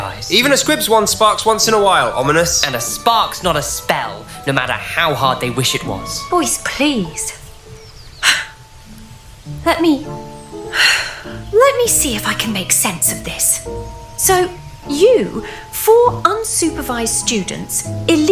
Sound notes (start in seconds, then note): 0.5 bickering; 8.2 sigh; 10.7 deep breath